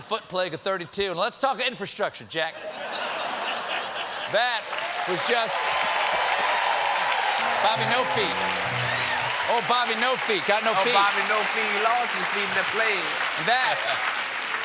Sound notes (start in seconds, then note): 5.6 cheers and applause; 14.4 applause